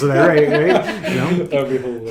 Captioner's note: laughing